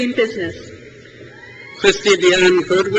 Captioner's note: crowd cheers